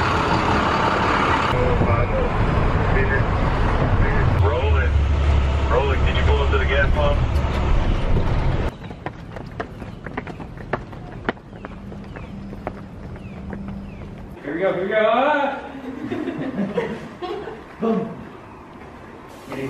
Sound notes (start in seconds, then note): 15.6 students laughing